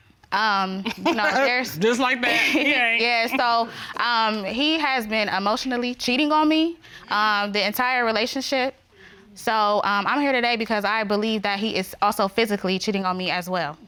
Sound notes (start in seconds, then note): 0.9 chuckles